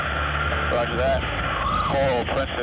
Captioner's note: man Over Radio